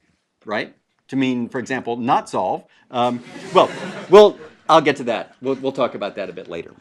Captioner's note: laugh